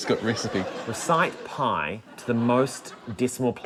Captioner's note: chuckles